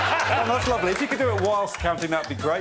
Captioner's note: laughter